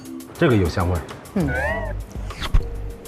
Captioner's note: sniffing